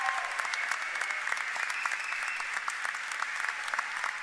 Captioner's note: applause